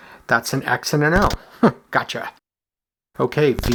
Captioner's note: chuckles